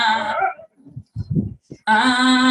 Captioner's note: singing a note; low howl; singing a note